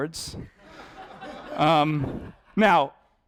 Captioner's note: audience laughing